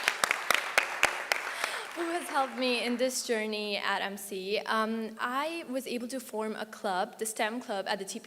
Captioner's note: applause